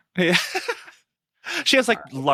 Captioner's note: laughing